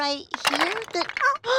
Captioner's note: clatter